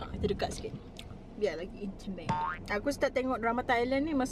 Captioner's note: boink sound